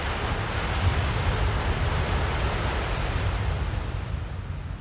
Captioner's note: waves crashing